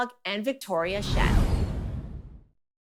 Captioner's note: transition sound